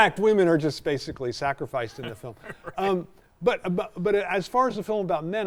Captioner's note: chuckling